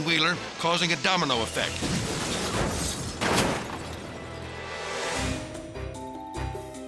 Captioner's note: cars thudding; bright music